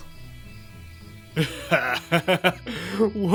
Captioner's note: Ares laughs